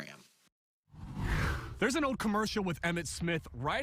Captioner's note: air whooshes